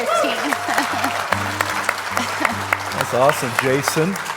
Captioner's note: congregation applauds